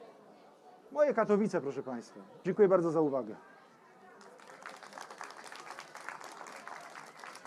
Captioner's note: applause